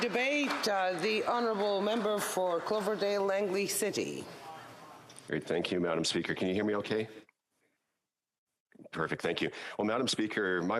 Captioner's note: applause